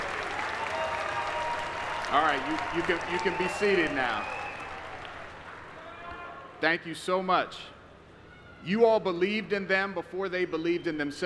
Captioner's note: applause